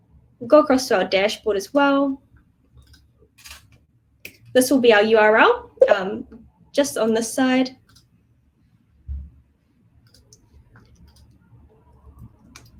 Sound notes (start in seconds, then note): 8.2 mouse clicking